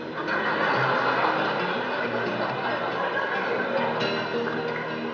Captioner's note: audience laughs